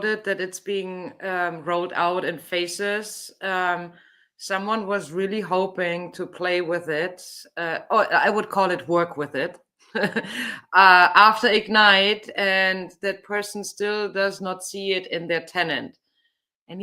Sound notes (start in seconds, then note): 9.9 chuckles